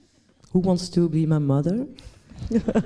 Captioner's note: laughs